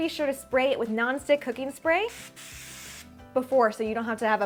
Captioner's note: spraying